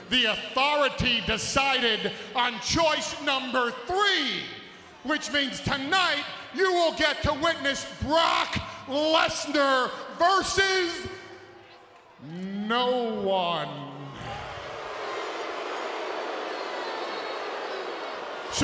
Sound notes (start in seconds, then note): 13.6 crowd booing